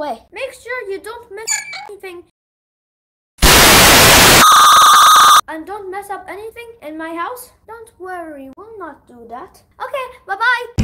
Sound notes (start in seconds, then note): 1.4 high pitched notification sound; 3.4 loud static